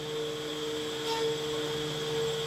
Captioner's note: whirring